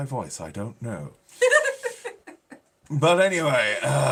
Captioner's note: laughing